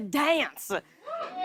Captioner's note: cheers